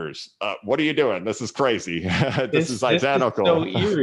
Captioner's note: laughs